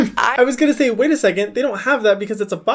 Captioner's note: Hyram laughs